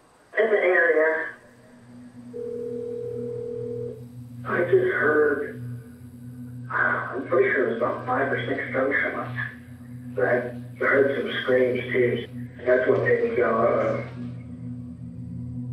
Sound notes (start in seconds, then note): 2.5 dramatic music; 2.5 phone dialing